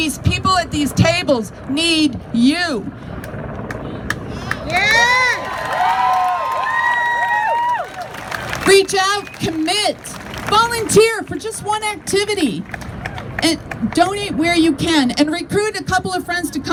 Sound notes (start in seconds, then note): 4.4 crowd claps and cheers